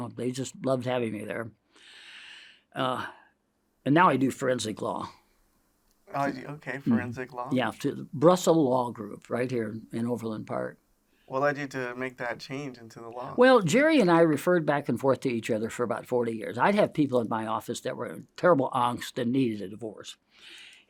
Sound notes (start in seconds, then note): 1.7 inhales